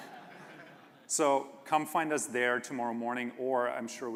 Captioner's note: laughter